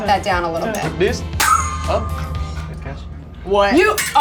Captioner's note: metal pangs